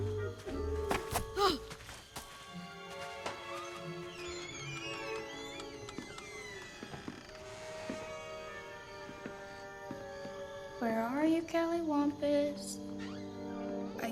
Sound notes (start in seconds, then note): 1.3 grunts; 4.4 door creaks